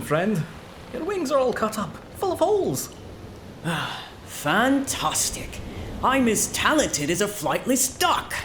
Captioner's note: sigh